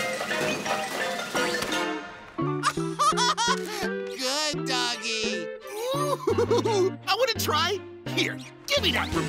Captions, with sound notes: [laughs] Good doggy! [laughs] I want to try! Here, give me that remote.